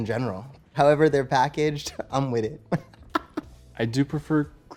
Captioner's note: laughs